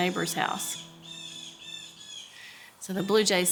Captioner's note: birds squawk